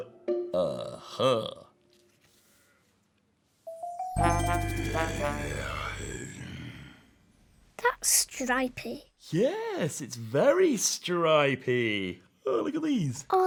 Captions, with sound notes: ah ha [tiger noise] that's stripy yes it's very stripey oh look at these